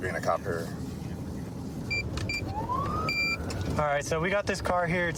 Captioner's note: buttons beeping